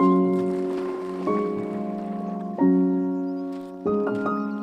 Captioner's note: water splashing